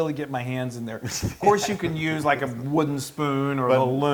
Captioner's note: laugh